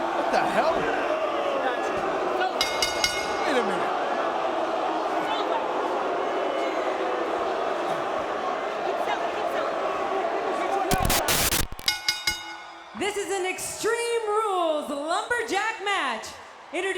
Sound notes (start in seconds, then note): 2.6 bell ringing; 10.9 static crackling; 11.6 bell ringing